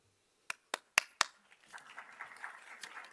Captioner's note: applause